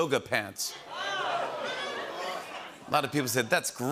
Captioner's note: audience groans